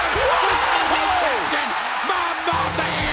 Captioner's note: cheers and applause; bell ringing